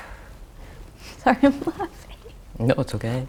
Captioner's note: laughs